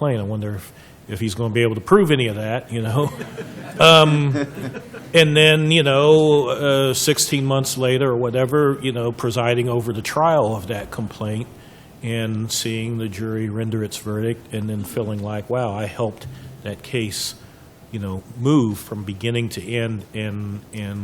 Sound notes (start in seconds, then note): 3.0 laughter